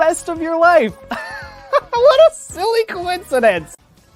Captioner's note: strained laughter